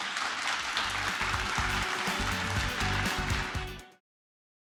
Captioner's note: audience applauding